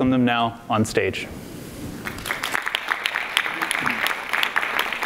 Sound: audience applauds

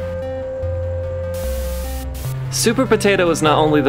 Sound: static

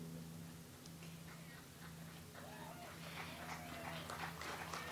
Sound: audience applauds

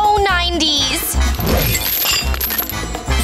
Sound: clanking

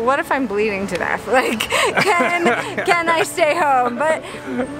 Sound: laughing

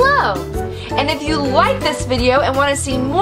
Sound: voiceover

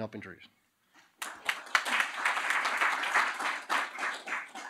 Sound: applause

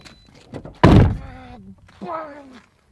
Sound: door slams loudly

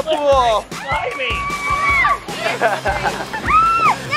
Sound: all laughing

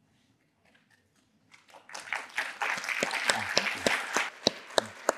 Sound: applause

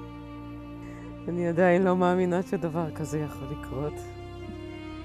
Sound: speaking in Hebrew

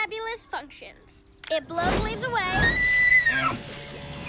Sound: shrieks

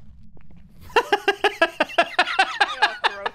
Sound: laughs

